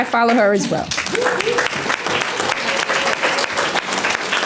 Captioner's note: applause